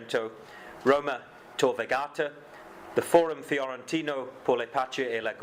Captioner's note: speaking foreign language